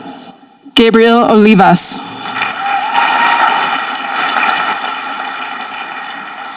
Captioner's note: audience applauding